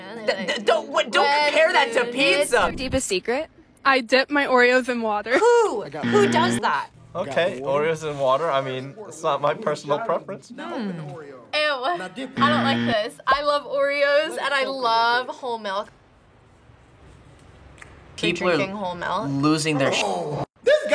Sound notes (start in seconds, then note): 6.0 buzzer rings; 12.3 buzzer rings